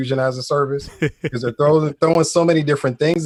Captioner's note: chuckles